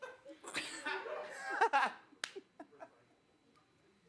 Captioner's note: audience laughs